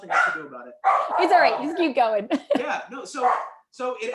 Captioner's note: laughter